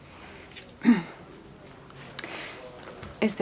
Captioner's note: faith clears throat